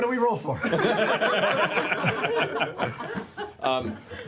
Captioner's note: laughter